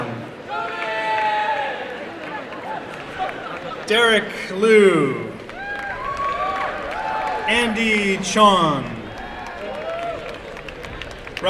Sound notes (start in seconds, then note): 0.4 applause and cheering